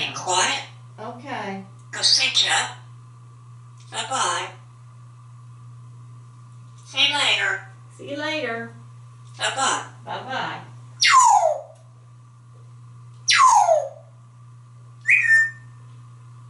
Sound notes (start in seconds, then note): 11.1 whistle; 13.3 whistle; 15.0 whistle